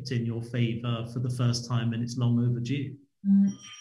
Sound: doorbell rings

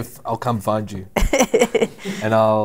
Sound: laughter

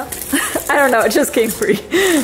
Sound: speaker 1 laughing

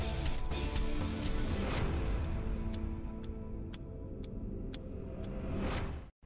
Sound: dramatic music; clock ticking

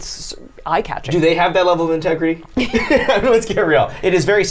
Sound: laughs

